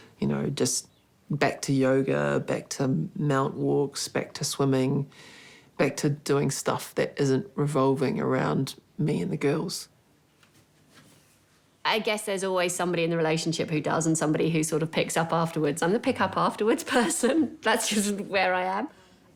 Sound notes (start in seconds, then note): 16.8 chuckles